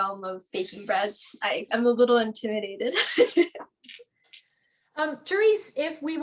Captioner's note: laughs